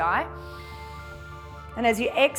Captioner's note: inhales